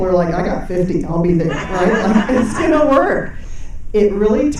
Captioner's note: audience laughing